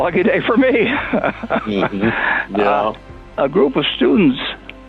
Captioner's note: Warren laughing